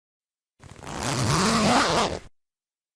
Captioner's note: zipper FX